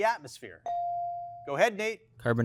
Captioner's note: bell chiming